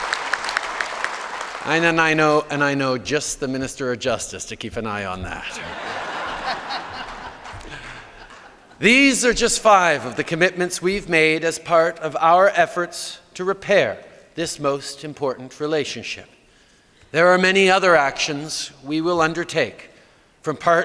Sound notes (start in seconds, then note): 0.0 cheers & Applause; 8.1 laughter